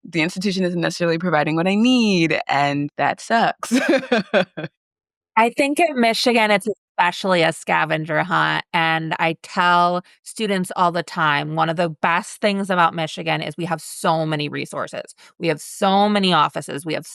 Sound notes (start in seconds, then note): 3.6 laughs